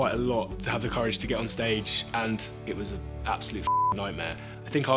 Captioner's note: beep